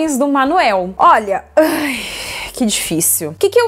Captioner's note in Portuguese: suspira